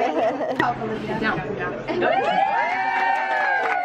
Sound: cheering

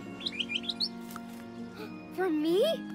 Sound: chirps; gasps

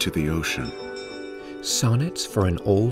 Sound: bell dinging

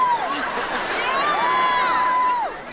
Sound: cheering

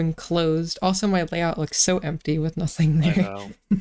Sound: giggle

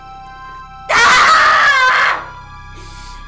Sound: screams

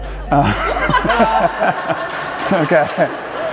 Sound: all laughing

